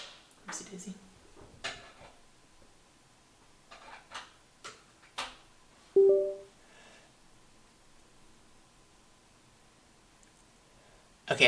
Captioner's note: clatter, windows sounds